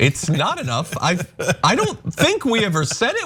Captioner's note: laugh